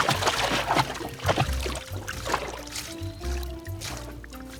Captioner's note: water slushes